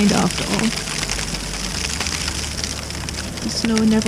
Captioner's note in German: Schnee fällt aufs Zelt